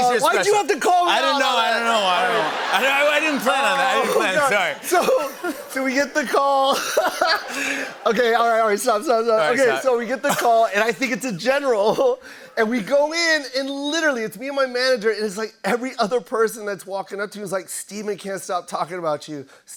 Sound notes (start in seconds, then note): 2.6 laughter; 7.2 laughs